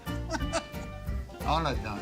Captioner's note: laughs